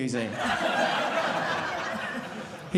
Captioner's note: audience laughing